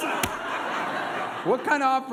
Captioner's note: laughter